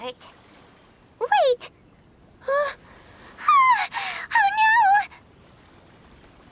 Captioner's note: gasp